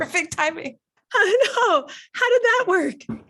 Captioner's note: laughs